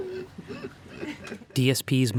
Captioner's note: laughing